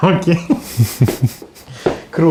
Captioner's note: laugh